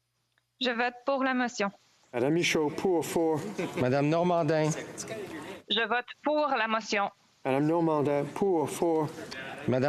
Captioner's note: speaking FRENCH